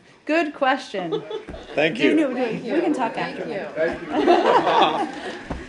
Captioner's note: laughter